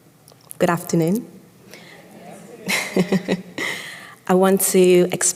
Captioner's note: audience greets back